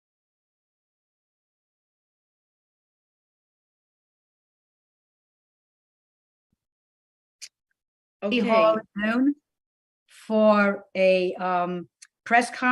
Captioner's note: lost audio